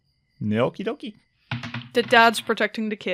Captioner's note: dice thumps